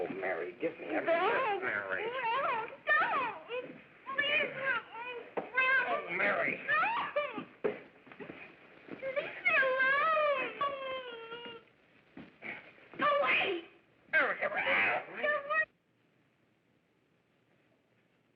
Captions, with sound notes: Oh, Mary, give me a kiss. - Don't. - Mary. - No, don't! Please help me. - Oh, Mary. - You leave me alone. (whimpering) Go away! - Mary, everybody's-- (yelping)